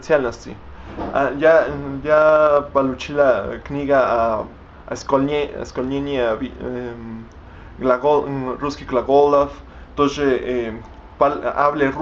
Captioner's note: speak Russian